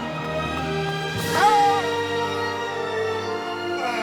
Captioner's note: yelps